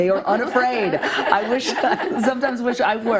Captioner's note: everyone laughing